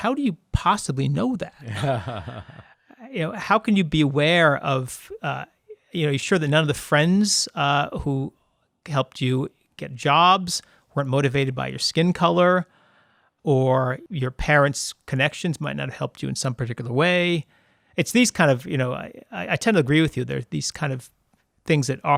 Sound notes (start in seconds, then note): 1.6 laughs